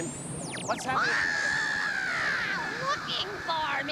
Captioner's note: shrieking